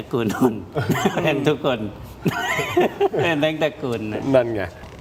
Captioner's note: laughs